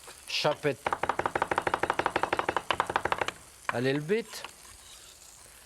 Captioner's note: knife tapping